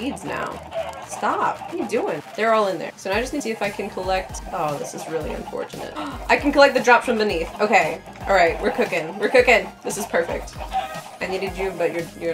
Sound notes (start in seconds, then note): 6.0 gasp